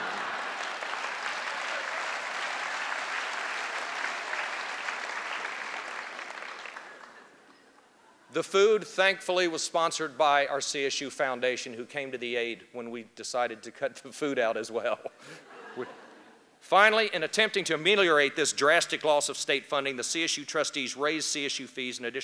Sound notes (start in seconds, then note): 0.0 laughter; 4.2 applause